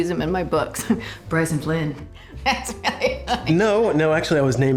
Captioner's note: drucinda laughing